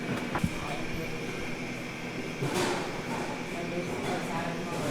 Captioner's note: people chattering